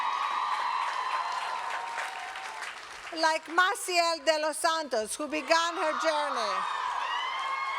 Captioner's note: applause